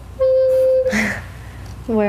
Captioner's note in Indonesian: Had a mistake, but successful / Laugh